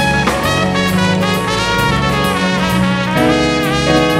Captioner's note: audience cheering